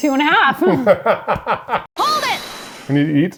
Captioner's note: laughing